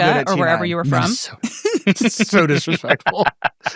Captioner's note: people laughing